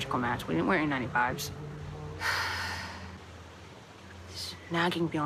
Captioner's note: exhales